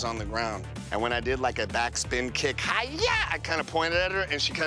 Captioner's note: shouts